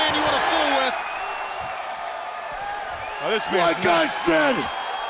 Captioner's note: crowd cheering